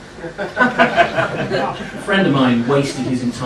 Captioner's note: laughing